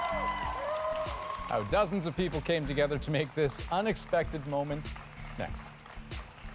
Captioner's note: cheers and applause